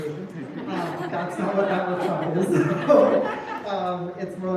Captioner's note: laughter